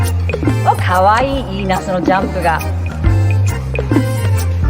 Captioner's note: foreign language